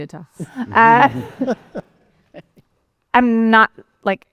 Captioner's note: laughter